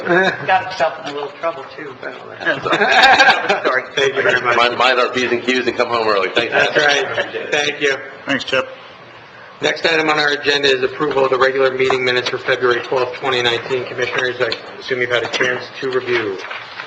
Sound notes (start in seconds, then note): 2.5 laughter